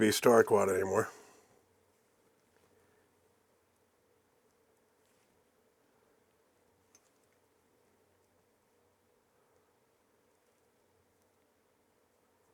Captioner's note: silence